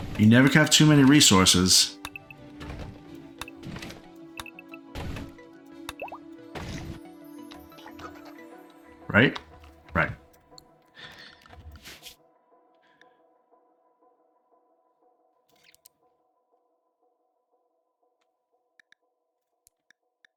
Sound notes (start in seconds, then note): 2.0 clicking; 11.0 clicking